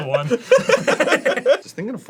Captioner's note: arin, cartoonish giggling; both laugh